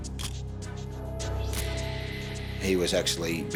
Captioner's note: camera shutter click